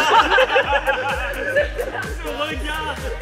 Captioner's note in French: rire général